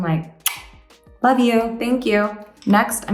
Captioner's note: smacks lips